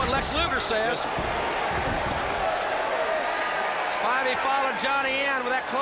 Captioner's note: crowd chatter